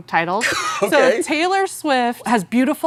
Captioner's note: laughs